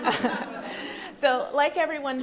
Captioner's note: crowd laughs